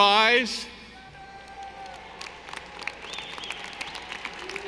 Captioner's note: audience applauding